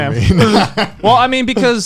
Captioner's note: chuckling